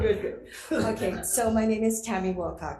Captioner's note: laughing